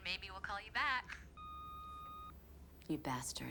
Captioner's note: phone beeping